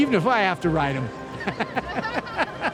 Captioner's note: chuckles